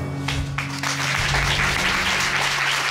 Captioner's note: applause